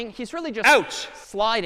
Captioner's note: ouch sound